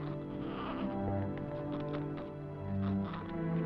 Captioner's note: baby babbling